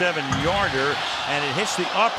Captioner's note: crowd clamoring